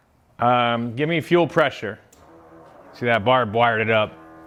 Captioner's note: machine whirring